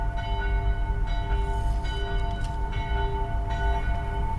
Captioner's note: bell ringing